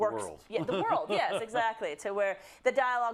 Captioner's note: laugh